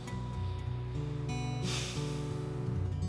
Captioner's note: sighs